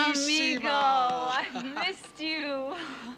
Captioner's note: laughs